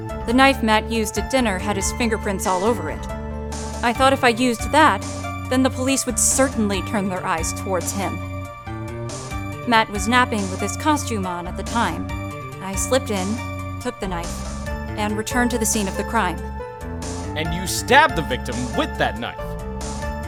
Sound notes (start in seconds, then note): none